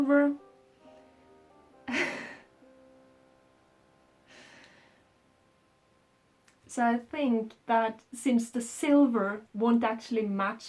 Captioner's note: laughs